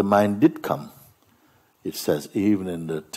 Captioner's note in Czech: none